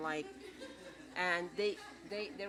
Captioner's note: laughter